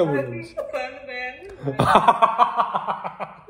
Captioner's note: laughs